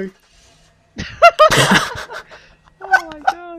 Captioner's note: retarded chuckle